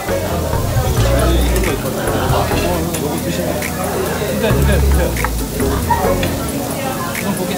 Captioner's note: slurping